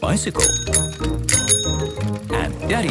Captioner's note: bicycle bell dinging